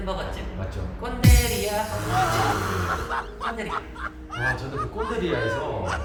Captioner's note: laughter